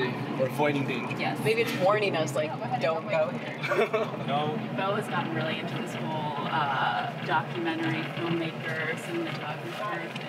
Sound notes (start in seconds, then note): 3.6 laughing